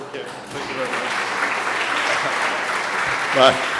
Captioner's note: applause